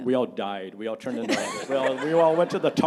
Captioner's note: audience laughing